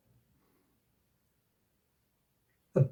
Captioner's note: sniff sniff